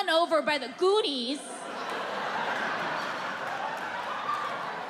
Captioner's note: audience laughing